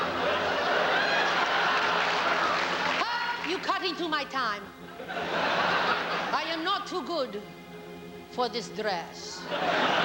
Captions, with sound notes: [more laughs & applause] Op! You cut into my time. [laughter] I am not too good... for this dress.